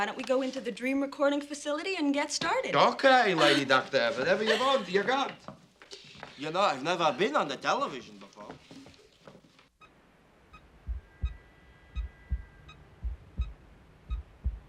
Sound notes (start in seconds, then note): 9.4 device beeping; 12.0 heart pumping